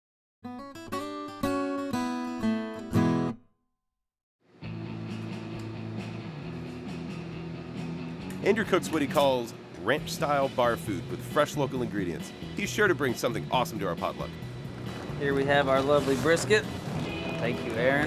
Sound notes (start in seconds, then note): 0.5 acoustic guitar music; 7.9 voiceover